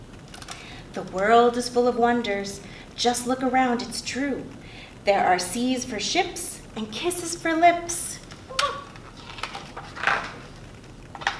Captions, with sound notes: The world is full of wonders, just look around it's true there are seas for ships and kisses for lips. *muah*